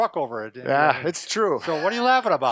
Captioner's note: laughing